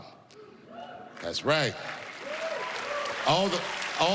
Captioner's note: cheering and applause